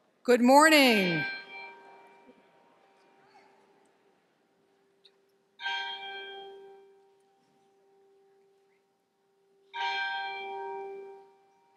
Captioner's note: bell rings 3 times